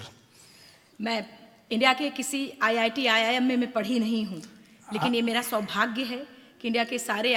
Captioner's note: speaks in foreign language